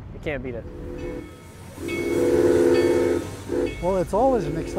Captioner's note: train whistle blowing and bell ringing